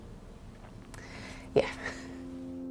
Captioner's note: inhaling deeply